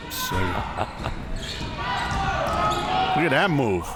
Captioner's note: laughs